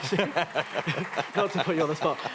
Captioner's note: applause